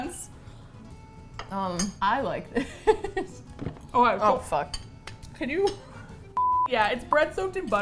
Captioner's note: laughs